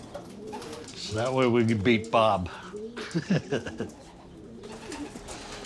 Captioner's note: chuckles